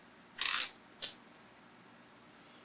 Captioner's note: die clatters